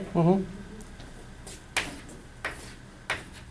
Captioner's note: voiceover